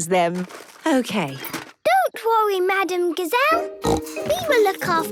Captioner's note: snorting